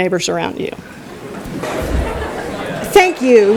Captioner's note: laughter